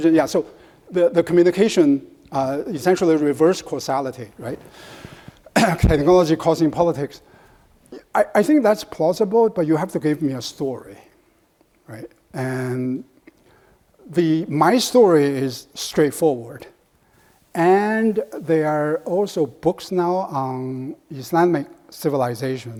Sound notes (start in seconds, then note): 5.5 clears throat